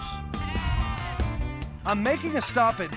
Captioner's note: sheep bleating